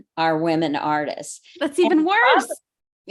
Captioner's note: gasps